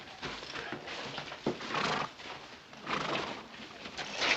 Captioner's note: horse huffing softly